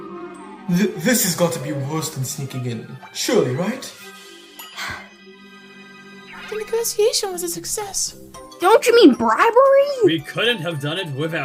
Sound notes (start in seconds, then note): 4.7 Usapyon sighs